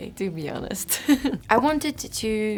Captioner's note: chuckles